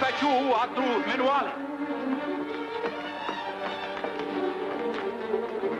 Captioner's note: man speaks in foreign language